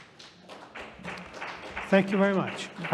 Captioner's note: audience applauding